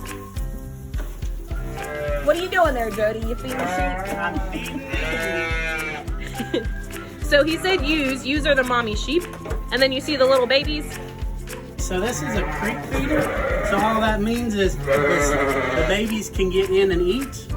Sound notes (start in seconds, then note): 3.5 sheep bleating loudly; 7.2 laughs